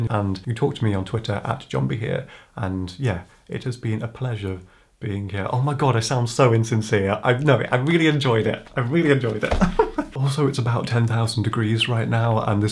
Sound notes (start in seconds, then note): 9.4 giggles